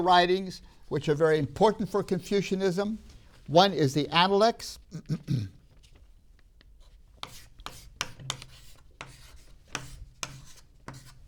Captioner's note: clears throat